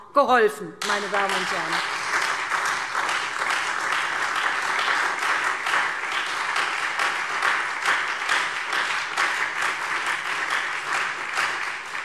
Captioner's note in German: Beifall SPD und Freie Demokraten